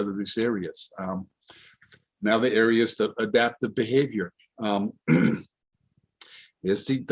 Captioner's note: clears throat